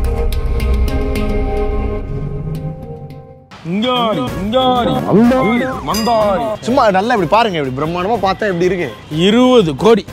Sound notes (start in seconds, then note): 3.5 Speaks Gibberish